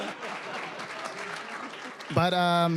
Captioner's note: all laughing